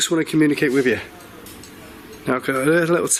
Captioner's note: light clacking